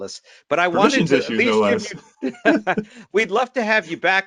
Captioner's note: chuckles